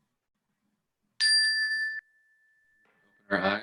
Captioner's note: bell ringing